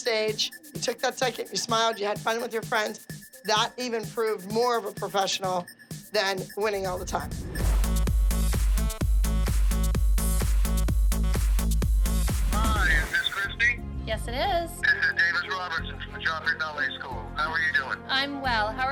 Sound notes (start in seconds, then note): 7.3 upbeat music plays; 12.2 man over phone